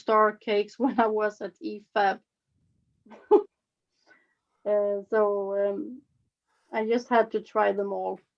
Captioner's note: chuckles